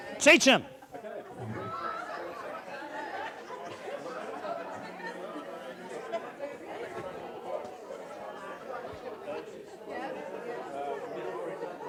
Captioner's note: audience discussion